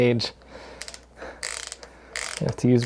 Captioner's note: ratcheting